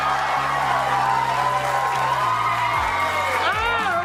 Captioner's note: audience cheers wildly